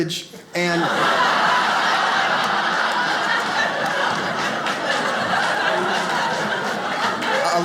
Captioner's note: audience laughs